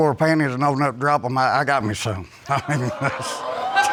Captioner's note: chuckles; audience exclaiming and laughing